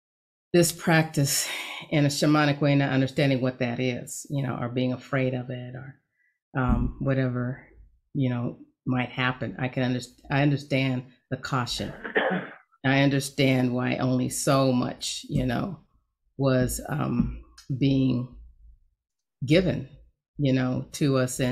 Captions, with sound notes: this practice in a shamanic way, not understanding what that is, or being afraid of it or whatever might happen. I can understand the caution. (coughing sound) I understand why only so much was being given to us